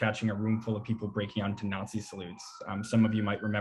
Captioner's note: sirens wailing